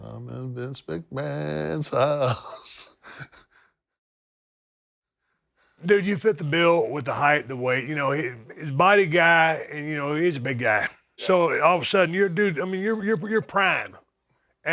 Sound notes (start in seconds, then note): 1.9 laugh